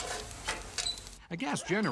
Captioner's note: fire crackles